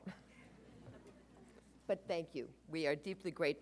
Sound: audience chuckles

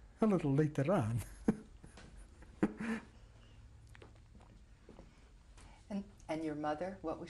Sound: laughs

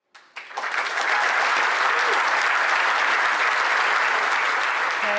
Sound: applause

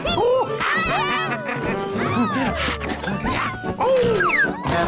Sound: they laugh

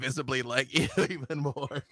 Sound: laughs

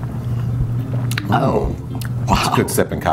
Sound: both exclaim

